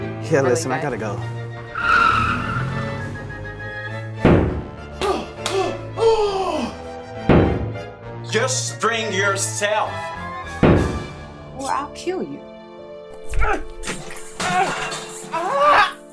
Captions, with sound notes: Hey, listen - I gotta go. (car screeches off) Huh, huh... HUUUHHH!!! JUST BRING YOURSELF!!! Or I’ll kill you! (Chuck cries out in agony)